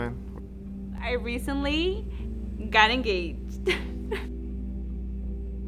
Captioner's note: laughs